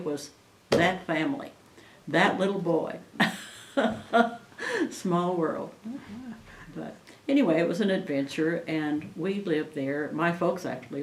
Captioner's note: laughs